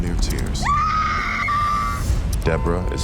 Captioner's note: ava daniels screams